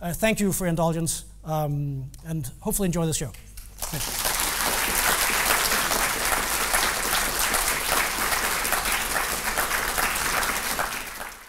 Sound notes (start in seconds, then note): 3.8 audience applauding